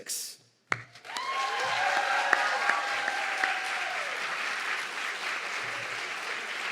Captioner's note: audience clapping and cheering